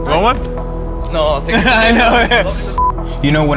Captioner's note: laughs